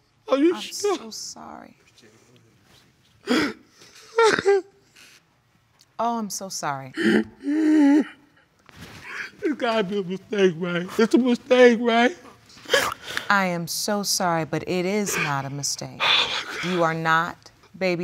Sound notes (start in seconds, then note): 1.9 murmuring; 4.1 crying; 7.0 crying; 12.7 sniffles; 16.1 gasping